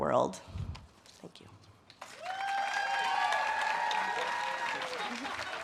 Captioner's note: audience cheers and claps